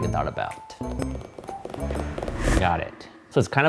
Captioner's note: fingers tapping